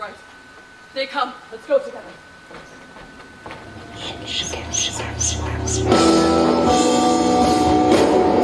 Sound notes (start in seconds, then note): 4.0 ghostly whispers; 5.5 rock music